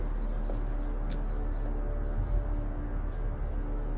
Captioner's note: footsteps; bird calls